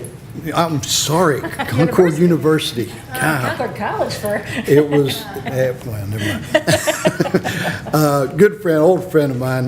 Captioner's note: laughter background noise